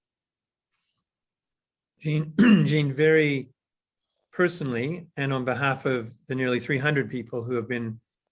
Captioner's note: cough